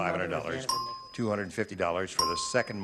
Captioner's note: beeping